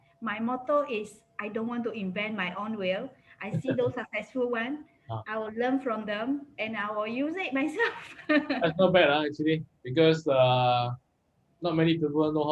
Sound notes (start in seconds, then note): 8.2 laughs